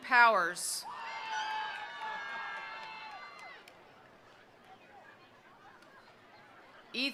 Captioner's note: attendees cheering; attendees applauding